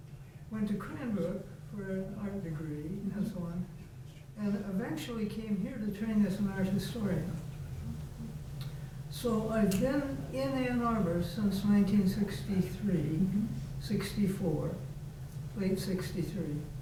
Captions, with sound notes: and eventually came here to train as (faintly speaking) So again in Ann Arbor since 1963 and 64,